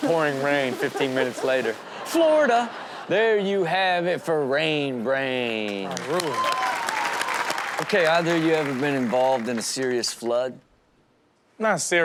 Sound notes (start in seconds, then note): 0.0 audience laughs; 5.8 audience cheers